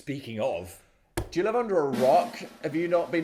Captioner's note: palm thumping; drum rolling